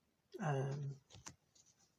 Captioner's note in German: ähm